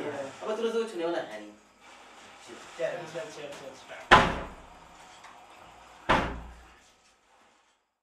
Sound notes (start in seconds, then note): 4.0 Habsha shuts the door